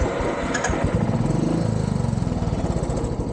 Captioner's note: loud motorbike engine